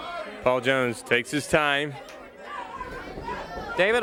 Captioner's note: crowd chatter